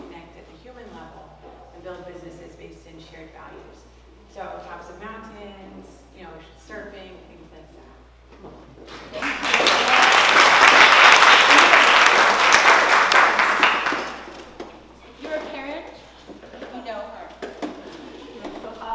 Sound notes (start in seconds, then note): 8.9 applause